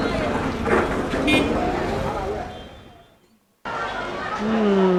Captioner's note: car honks